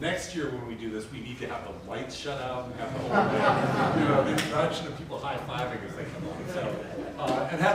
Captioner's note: audience laughs